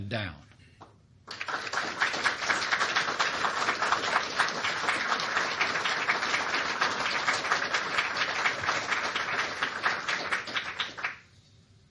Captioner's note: applause